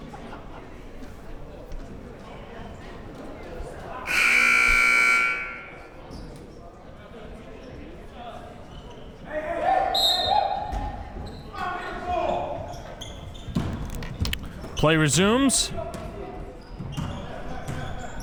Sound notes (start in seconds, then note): 4.1 buzzer blares